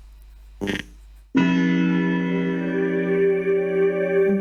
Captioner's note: clock chimes